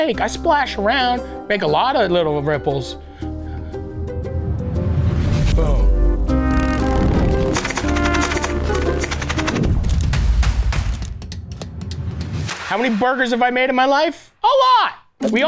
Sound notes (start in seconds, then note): 6.2 explosions sputter; 7.3 quirky music; 10.2 intense music